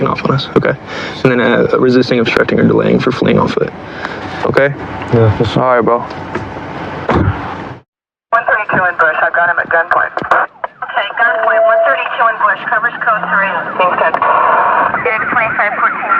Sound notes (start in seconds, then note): 15.2 on radidio